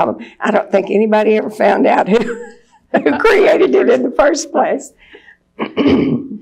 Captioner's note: laughs